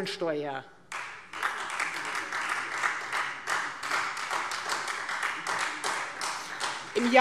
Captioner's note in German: Beifall Freie Demokraten